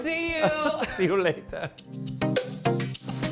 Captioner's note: laughing; bright music